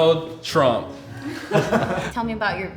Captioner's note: laughing